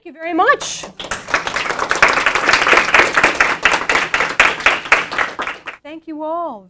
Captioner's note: applause